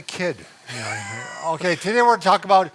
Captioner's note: laughs